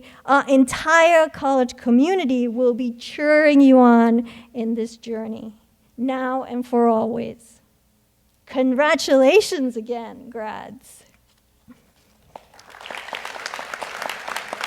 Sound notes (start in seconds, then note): 12.2 audience applauds